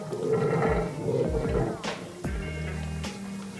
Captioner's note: the sound of water draining!